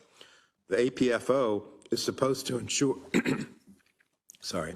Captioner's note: cough